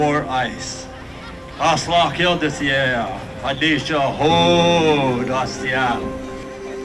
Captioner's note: speaking Duwamish